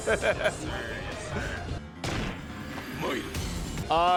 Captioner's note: laughing; gun firing